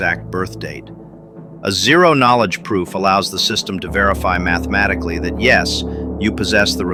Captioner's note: excited